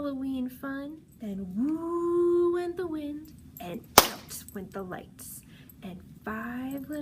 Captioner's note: claps